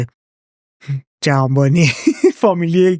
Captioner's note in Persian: خنده